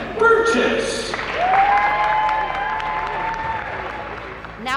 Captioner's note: cheering and applause